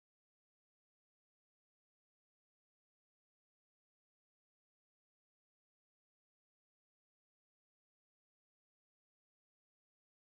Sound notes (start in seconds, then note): none